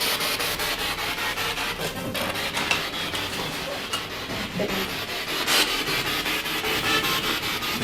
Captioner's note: radio noise from the spirit box